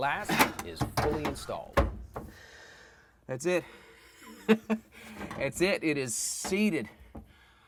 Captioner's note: laughing